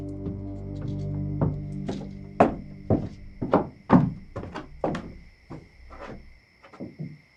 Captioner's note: footsteps